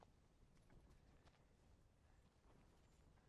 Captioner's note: none